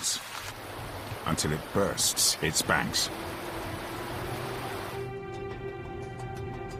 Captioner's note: water running; upbeat music